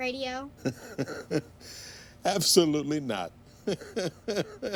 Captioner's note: laughs